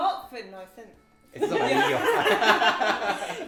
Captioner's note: laughs